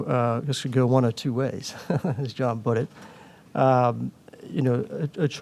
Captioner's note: laughs